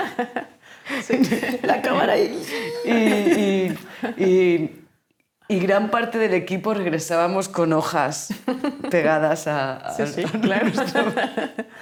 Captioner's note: laughing; laughing